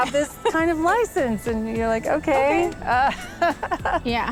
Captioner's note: laughs